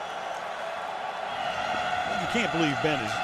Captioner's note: cheering